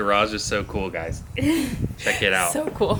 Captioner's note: laughing